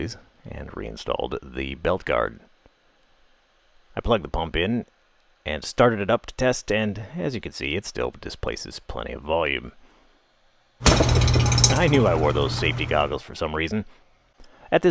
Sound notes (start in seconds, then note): 10.7 cork pops; 10.8 pump gurgles